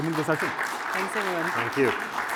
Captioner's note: applause